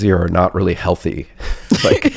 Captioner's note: laughs